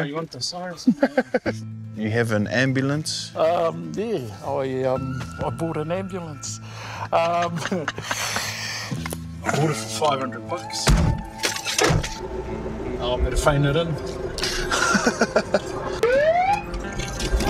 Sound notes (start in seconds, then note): 0.8 both laughing; 6.9 laughing; 14.4 both laughing